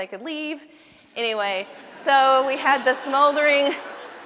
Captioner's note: laughter